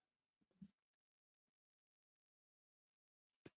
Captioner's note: silence